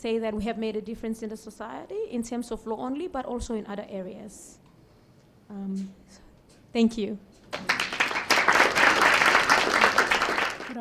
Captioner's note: applause